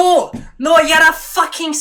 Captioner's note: scottish Accent